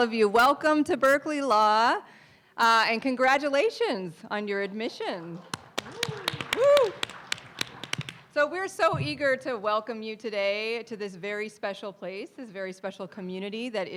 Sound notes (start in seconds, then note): 5.4 audience applauding; 5.4 claps